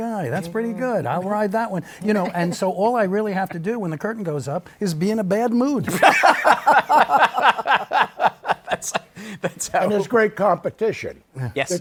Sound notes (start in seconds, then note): 5.8 laughter